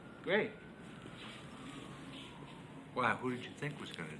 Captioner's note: sirens wailing